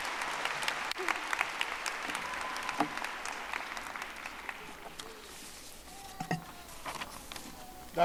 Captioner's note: audience applauding